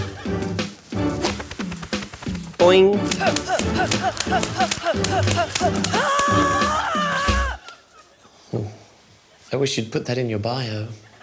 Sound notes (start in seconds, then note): 3.0 grunts, yells